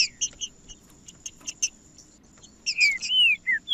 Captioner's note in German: trinca ferro cantando